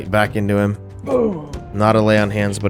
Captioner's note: ugh sound